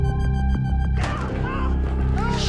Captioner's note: screaming